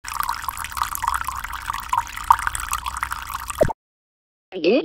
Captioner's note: dripping sounds